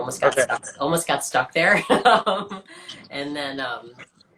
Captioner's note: laughs